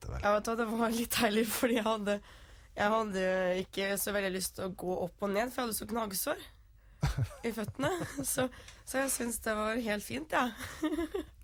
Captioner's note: laughing